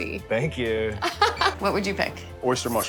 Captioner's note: laughter